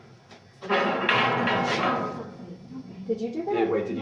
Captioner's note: clanging metal